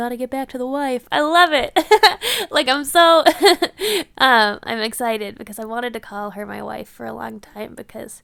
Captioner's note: laughs